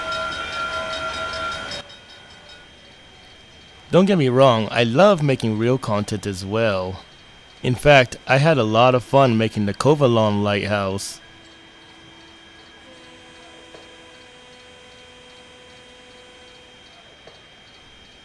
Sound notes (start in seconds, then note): 11.2 steam engine air horn in the distance